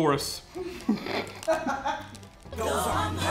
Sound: laughing

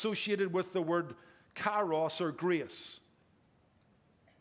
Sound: speaking in foreign language

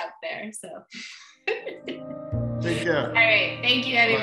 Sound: laughing

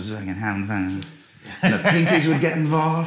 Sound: laughing

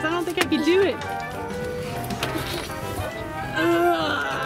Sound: grunting

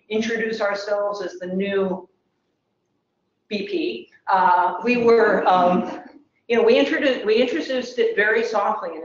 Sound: laugh

